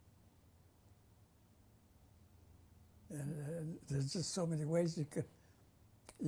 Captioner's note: pauses for 3 seconds